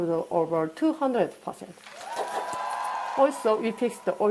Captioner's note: cheers, applause